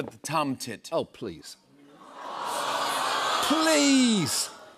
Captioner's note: audience "Awws"